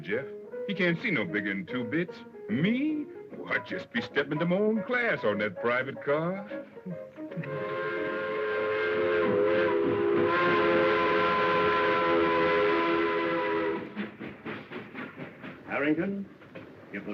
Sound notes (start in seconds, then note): 7.4 train whistle